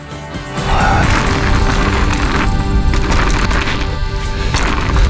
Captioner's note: bicycle wheels spinning